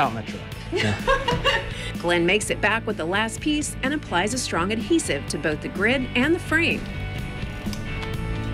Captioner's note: laughter; soft rock music